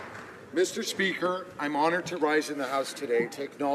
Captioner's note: applause